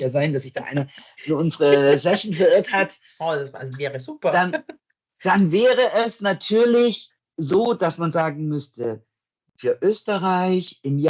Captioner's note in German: lacht